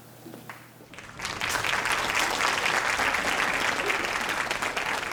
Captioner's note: audience applauding